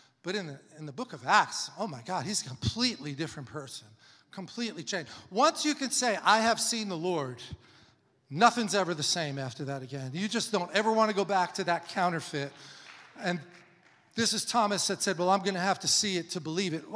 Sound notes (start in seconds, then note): 11.6 congregation applauding